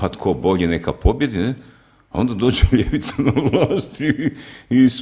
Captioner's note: laughter